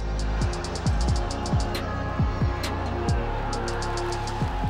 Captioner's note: crowd cheering and screaming